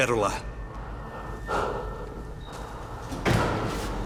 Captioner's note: panting